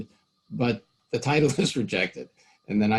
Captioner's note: laughing